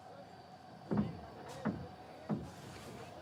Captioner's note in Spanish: golpes suaves y voces a lo lejos